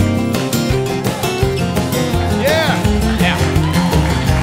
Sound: cheers and applause

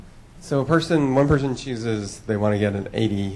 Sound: voiceover

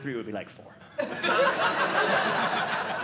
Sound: audience laughing

